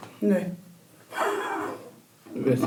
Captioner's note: laughs